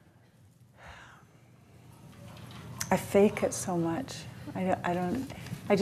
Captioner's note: sighs